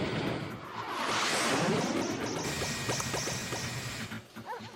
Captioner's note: beeps and buzzes; dog barking